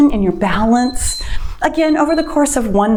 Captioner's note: timer beeps